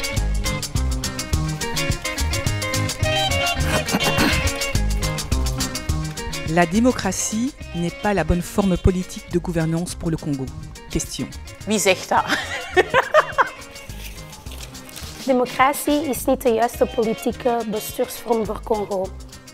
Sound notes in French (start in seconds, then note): 12.2 rire